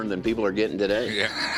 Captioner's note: laughs